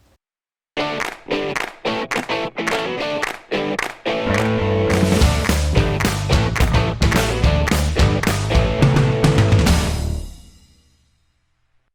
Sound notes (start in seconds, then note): 0.8 claps